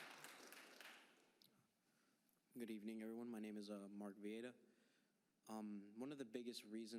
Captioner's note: applause